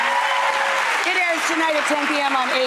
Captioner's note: audience cheering